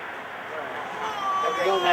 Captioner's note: baby crying